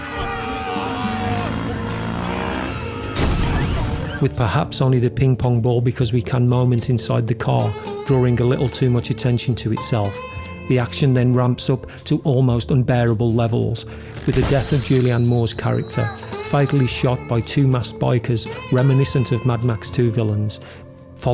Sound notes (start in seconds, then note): 0.0 people screaming and shouting; 0.6 motorcycle revs; 3.2 windshield shatters